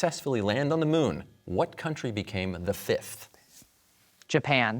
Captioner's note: whispers